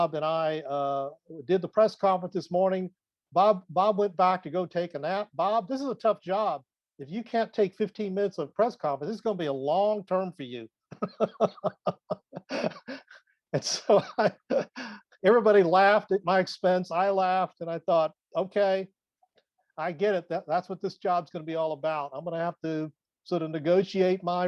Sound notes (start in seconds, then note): 10.9 laughs